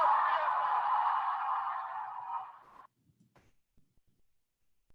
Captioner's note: audience applauding